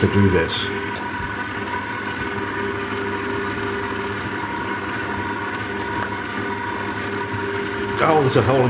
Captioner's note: machine whirring